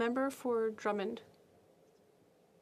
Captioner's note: speaking French